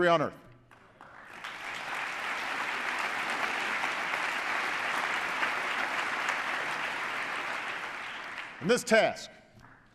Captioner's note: applause